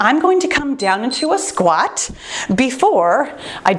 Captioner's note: timer beeps